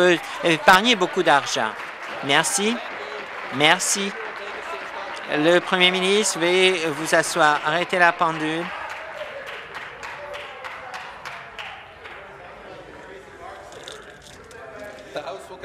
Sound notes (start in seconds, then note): 3.9 applause